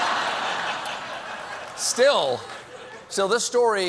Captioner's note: laughter